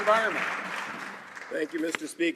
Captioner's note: some Applause